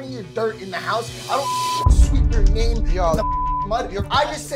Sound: beep

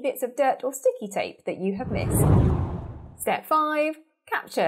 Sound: scene whooshes

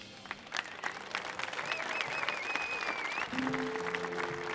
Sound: audience cheering; slow melancholy music

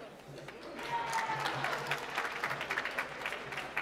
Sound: applause

